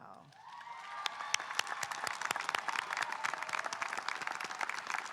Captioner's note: audience cheering and applauding